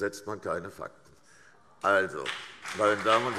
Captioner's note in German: Beifall CDU und BÜNDNIS 90/DIE GRÜNEN